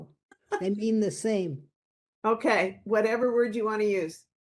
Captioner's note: laughing